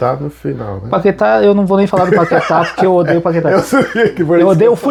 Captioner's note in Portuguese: risadas